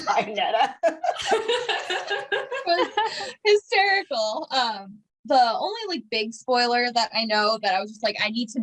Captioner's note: laughter